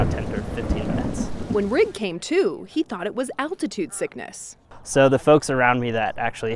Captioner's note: thunder rumbles